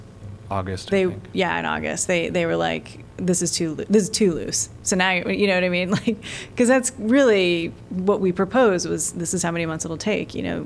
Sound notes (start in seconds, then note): 6.1 laughter